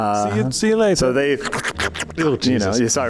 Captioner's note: icky Sloshy Sounds